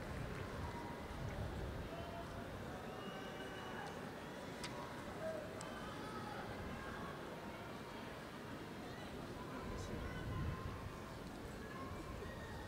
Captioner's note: applause